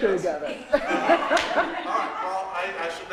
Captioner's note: laughter